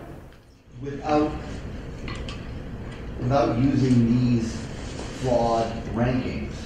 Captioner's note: voiceover